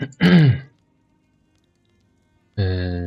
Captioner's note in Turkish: öksürme